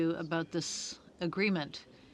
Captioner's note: speaking French